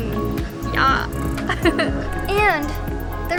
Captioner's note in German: Lacht